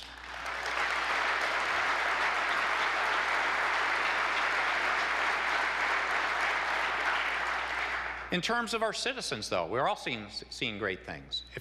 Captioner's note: applause